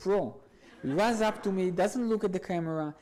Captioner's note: audience laughs